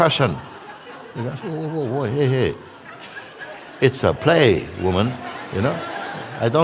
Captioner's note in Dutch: gelach